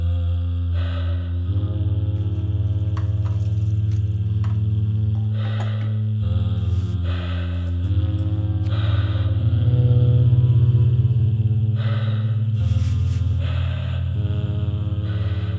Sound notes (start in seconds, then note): 0.0 slow, rhythmic breathing continues; 6.2 distorted vocal sounds and breathing continue